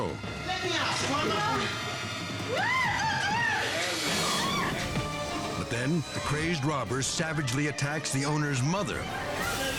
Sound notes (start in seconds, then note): 2.5 staff member screaming; 4.0 dramatic music continues